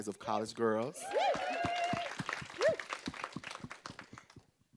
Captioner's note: group cheering